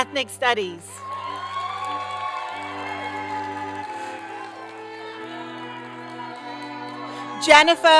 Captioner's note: applause